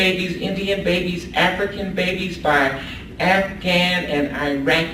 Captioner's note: none